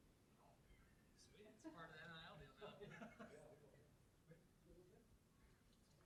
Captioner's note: indistinct chatter and laughter